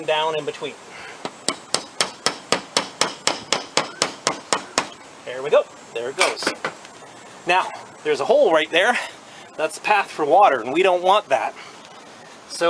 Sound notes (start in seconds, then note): 2.8 tapping